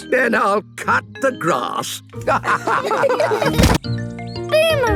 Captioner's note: laughter